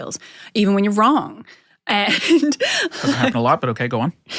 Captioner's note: laughs